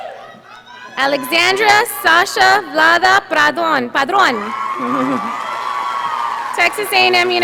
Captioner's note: audience applauding